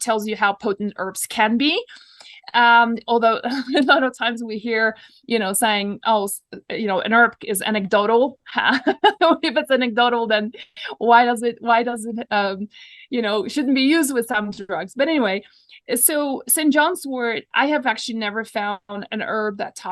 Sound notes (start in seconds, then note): 3.5 laughs; 8.6 laughs